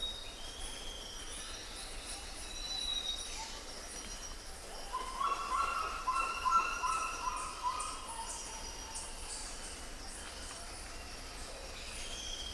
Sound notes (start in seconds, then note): 5.0 bird squawking